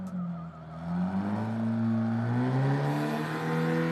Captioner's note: vehicle zooming away